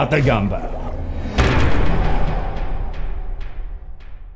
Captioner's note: impact